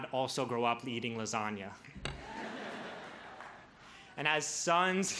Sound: crowd laughs

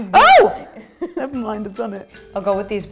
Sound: screams

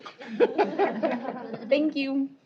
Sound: laughter

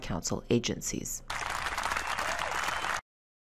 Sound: clapping

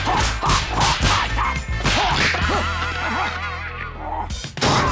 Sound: hands slapping; character groaning

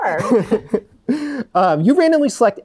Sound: laughs

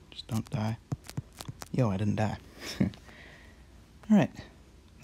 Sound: chuckle

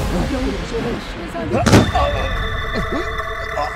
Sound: indistinct chatter; thud

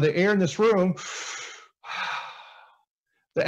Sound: breathing Sounds

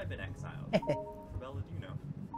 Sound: laughs

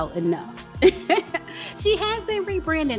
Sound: lightly chuckles

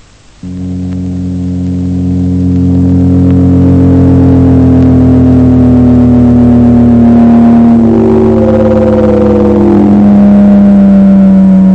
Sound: road Racing SFX

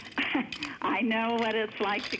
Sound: laughter

